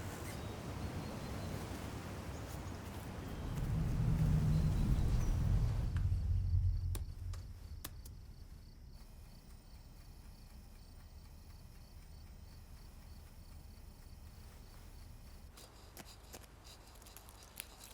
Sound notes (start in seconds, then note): 5.5 typing; 8.6 clock ticking; 15.0 sandpaper scraping